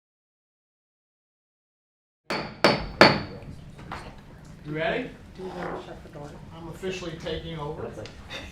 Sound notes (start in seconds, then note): 2.3 gavel banging